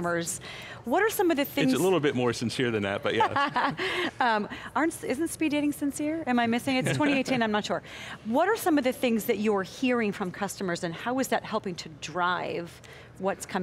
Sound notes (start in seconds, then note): 3.4 laughs